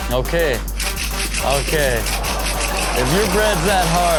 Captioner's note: bread scrapes